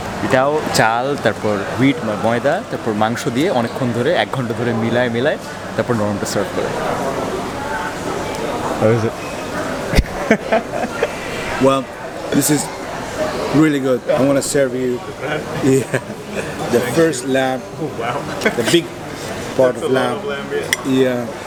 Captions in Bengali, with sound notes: এটাও চাল, ময়দা, তারপর মাংস দিয়ে অনেকক্ষণ ধরে, এক ঘণ্টা ধরে মিলিয়ে তারপর মূলত সার্ভ করে। এটা কেমন? - (হাসি) - আসলে, এটা সত্যিই ভালো। - আমি তোমাকে সার্ভ করতে চাই, হ্যাঁ। - প্রথম ল্যাম্ব। বাহ। - ল্যাম্ব এর বড় অংশ। বড় অংশ, হ্যাঁ। - হ্যাঁ।